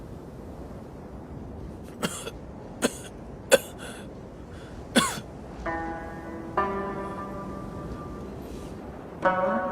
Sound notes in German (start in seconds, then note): 2.8 hust